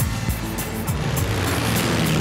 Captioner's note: helicopter sound